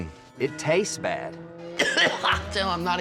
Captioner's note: coughing